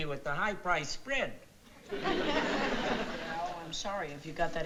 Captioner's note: audience laughing